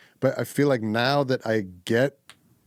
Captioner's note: none